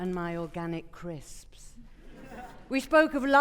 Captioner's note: audience chuckling